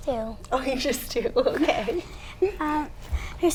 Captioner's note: laughs